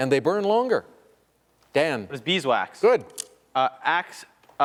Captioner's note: none